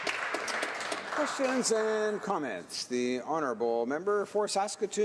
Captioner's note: some Applause